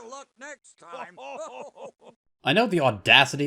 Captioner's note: Statler and Waldorf laugh